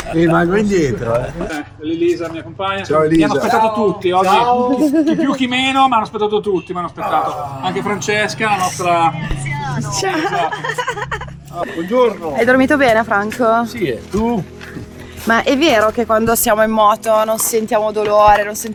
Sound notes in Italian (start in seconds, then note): 9.8 risate